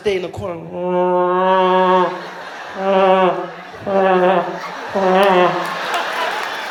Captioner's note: sound of a vuvuzela